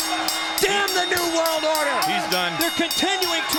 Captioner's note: bell ringing